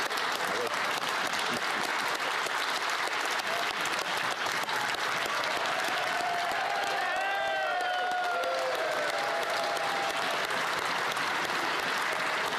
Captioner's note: applause